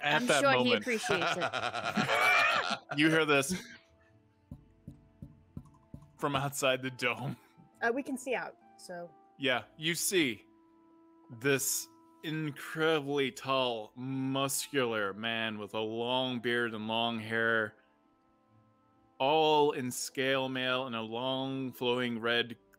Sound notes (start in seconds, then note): 4.5 knocking